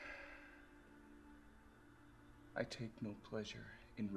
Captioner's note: Graham sighs